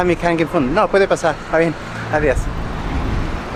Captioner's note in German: auf Spanisch